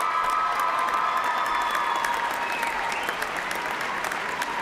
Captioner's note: cheers and applause